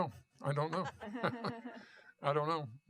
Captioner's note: laughter